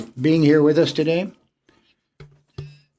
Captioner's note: speaking French